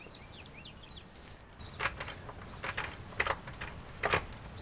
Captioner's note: clattering